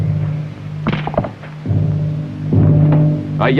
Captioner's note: rustling outside